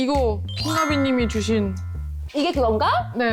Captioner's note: grateful sound effect